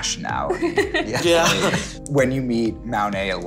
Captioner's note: laughter